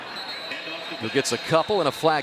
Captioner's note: whistle